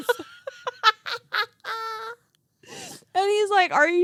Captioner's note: girls laughing